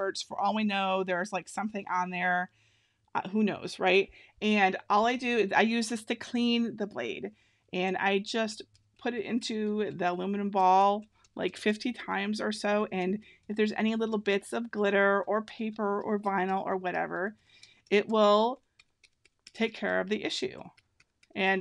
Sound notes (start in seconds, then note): none